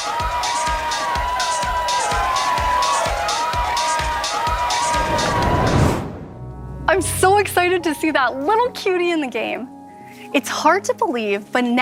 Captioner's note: applause